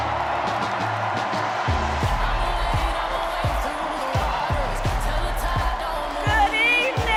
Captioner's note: cheers and applause